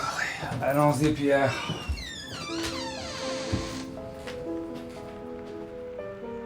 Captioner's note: Jean-Jacques speaking in French